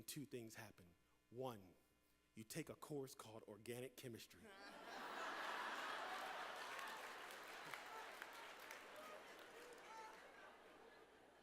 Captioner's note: laughter